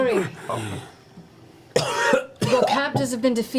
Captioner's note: coughs